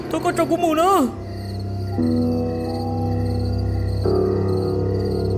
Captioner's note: gasping